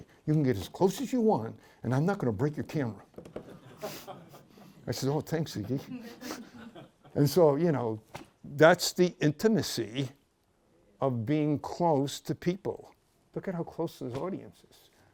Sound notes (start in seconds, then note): 3.6 laughs